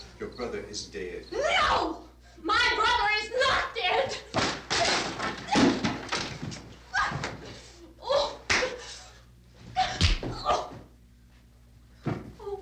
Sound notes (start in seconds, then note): 4.3 wood clattering; 8.3 grunting